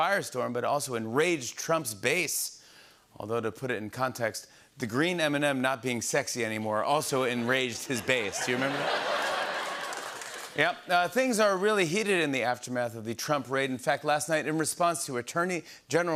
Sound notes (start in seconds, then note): 7.4 laughter